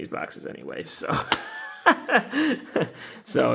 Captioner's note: laughs